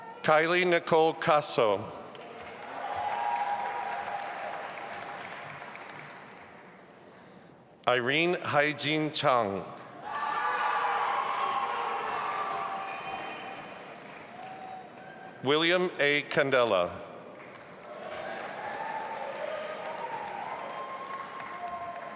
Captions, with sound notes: Kiley Nicole Caso. (audience applauding and cheering) Irene Haejin Chang. (audience applauding and cheering) William A. Candela. (audience applauding)